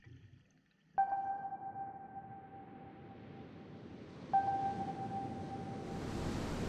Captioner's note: sonar beeping; waves crashing